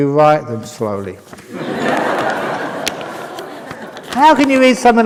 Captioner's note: laughter